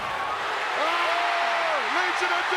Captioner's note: crowd cheers